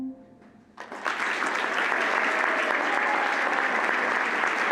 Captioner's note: audience applauding